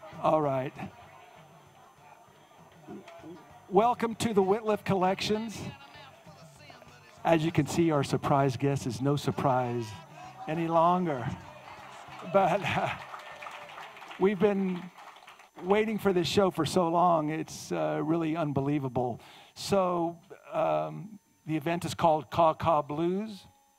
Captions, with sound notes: - All right. Welcome to the Wittliff Collections. As you can see, our surprise guest is no surprise any longer. (audience cheering) We've been waiting for this show for so long, it's really unbelievable. So the event is called Caw Caw Blues.